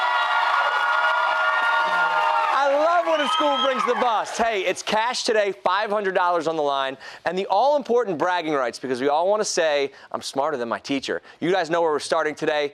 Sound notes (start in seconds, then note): 4.8 cheers and applause